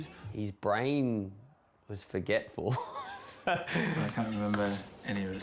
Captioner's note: laughs